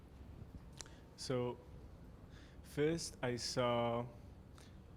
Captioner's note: voiceover